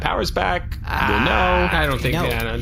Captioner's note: various “we are absolutely not killing Nermut” noises